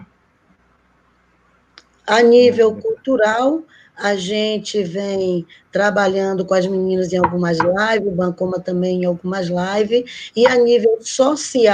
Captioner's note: speaking Portuguese